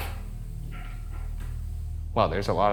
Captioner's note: object clattering